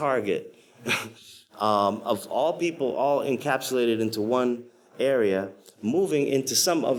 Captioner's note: chuckles